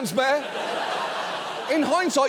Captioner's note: audience laughs